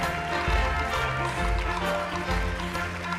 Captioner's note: cheers and applause